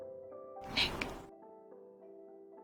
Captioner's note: voiceover